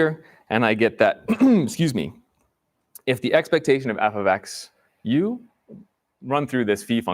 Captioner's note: clears throat